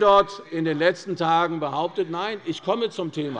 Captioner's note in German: Unruhe - Glockenzeichen des Präsidenten